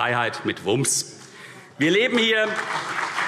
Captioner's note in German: Beifall CDU